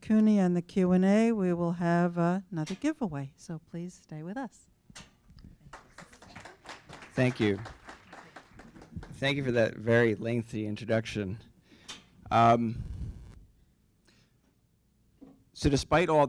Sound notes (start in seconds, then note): 5.6 applause